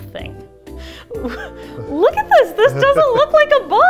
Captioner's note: laughing